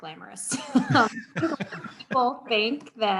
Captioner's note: laughing